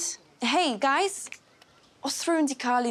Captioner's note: in Welsh